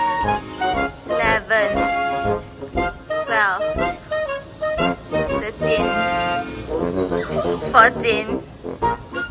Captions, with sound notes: Eleven Twelve Thirteen [squeals] Fourteen